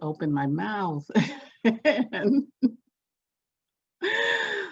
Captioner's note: laughs